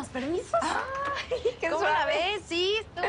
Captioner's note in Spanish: Exclamaciones